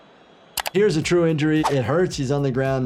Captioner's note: keyboard clicking